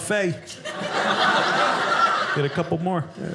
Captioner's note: audience laughing